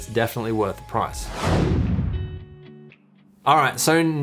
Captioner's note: air whooshes